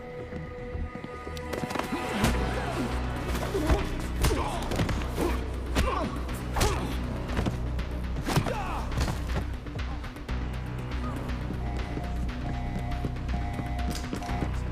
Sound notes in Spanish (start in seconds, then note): 1.7 resoplidos de la multitud; 11.6 alarma a todo volumen